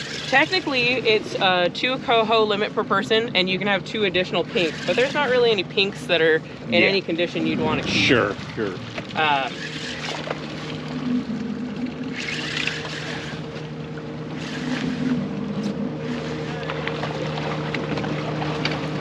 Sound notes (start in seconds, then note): 8.9 reel cranking; 12.2 boat engine idling; 18.1 fish splashing